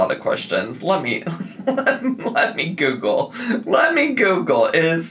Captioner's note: chuckles